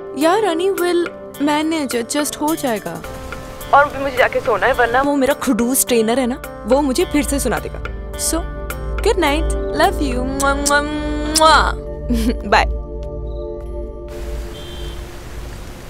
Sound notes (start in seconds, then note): 11.2 Kissing; 14.2 Traffic sound